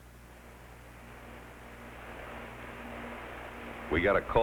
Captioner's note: fan whirring